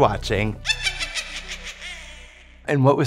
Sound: cackling

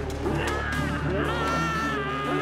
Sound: screaming

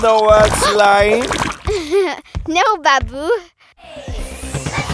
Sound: giggles

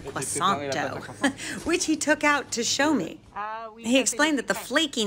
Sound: chuckling

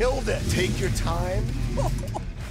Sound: laughs

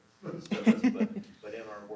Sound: laughter

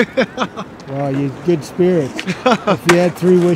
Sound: chuckles

